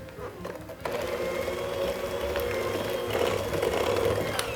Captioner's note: mixer mixing